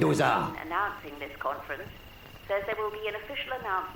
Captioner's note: radio Announcer